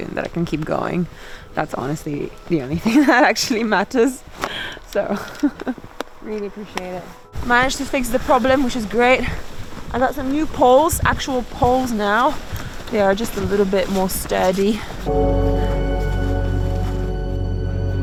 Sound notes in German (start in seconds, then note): 5.1 lacht; 15.0 dramatische Musik